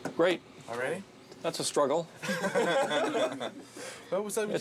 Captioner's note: laughing